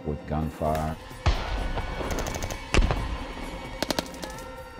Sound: guns banging

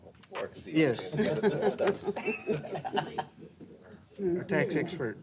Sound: laughter

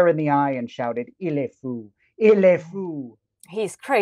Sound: speaks in foreign language

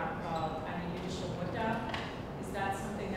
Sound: speaking foreign language

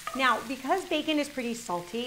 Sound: none

